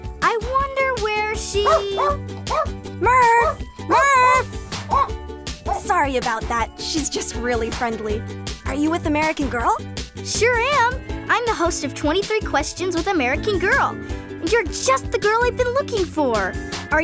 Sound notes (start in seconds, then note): 2.4 dog barking